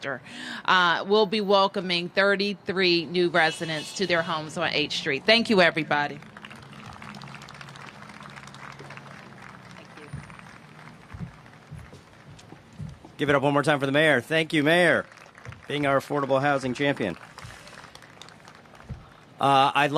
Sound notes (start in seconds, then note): 5.7 applause; 15.8 applause